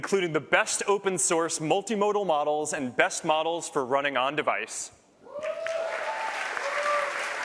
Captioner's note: cheers